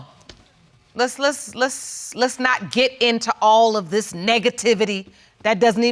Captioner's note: stammers